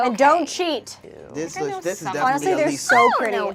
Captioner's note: overlapping chattering